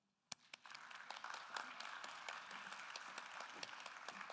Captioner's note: attendees applauding